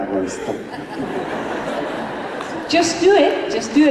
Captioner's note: laughter